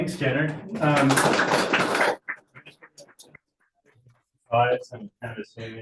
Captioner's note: audience applauding